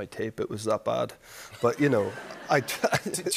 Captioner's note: laughter